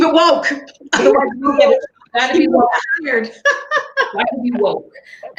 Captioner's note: laughing